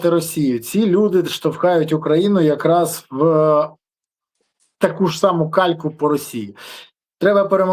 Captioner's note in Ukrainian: сопіння